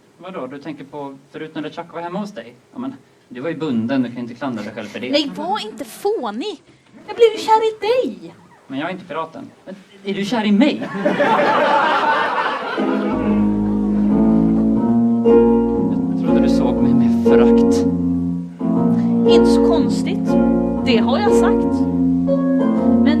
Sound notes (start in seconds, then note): 10.8 laughter; 12.7 dramatic piano intro